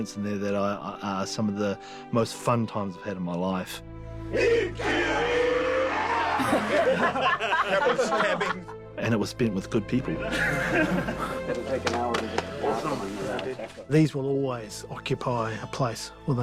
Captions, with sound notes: ...that are some of the most fun times I've had in my life. [SHOUTING AND LAUGHING] And it was spent with good people. These will always occupy a place within us...